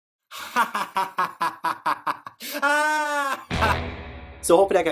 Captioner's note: evil laugh